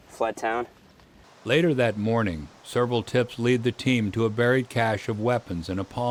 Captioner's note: voiceover